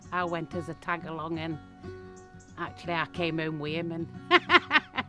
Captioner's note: laughs